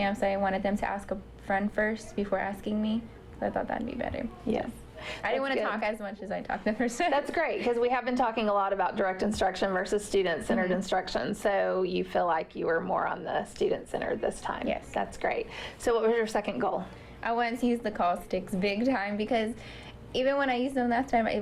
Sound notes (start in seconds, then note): 6.8 laughter